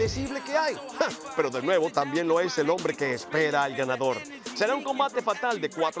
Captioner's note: laugh